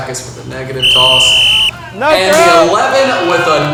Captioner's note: whistle